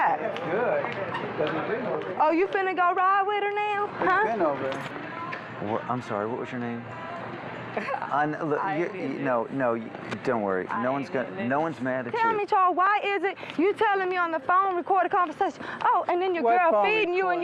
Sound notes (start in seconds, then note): 7.7 chuckles